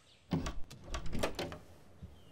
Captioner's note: Door opening